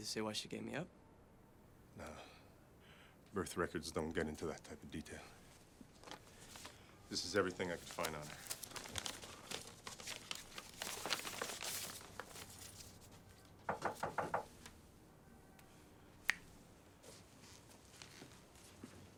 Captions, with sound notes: Does it say why she gave me up? - No, birth records don't get into that type of detail. This is everything I could find on her. (paper rustling) (hand knocking) (fingers snap)